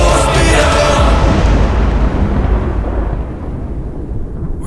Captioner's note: thunder crack